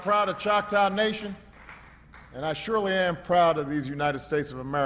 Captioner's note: applause